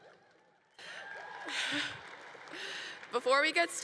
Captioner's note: congregation applauding